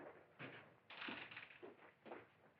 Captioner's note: door Opens